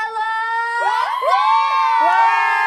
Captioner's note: Cheering loud enough to shake Ilsan